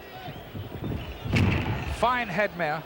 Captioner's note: body thuds